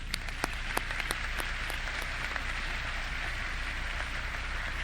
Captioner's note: audience clapping